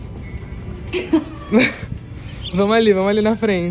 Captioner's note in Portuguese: risos